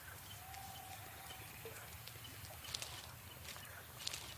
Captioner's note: rat gnawing